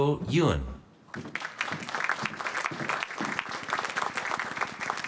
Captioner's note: applause